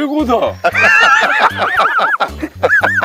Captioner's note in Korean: 폭소